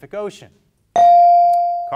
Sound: bell dings

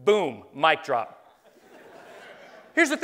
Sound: laughing

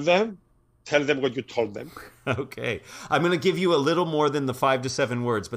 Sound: laugh

